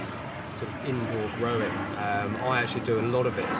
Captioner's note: aeroplane roaring